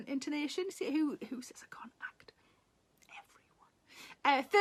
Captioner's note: Sarah whispers